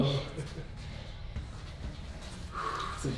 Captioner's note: compassionate laugh; sigh